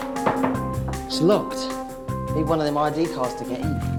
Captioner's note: rattling door